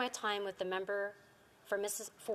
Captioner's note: speaking Indigenous Language